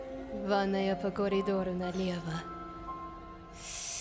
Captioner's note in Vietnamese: Tiếng Nga